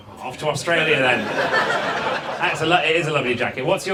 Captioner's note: audience laughs